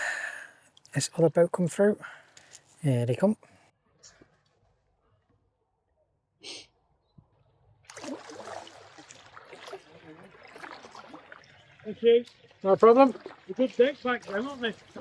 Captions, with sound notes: this other boat come through. Here they come. (water splashing) "Thank you" No problem. "They're good deck bags them arent they?"